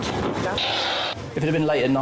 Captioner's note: radio hissing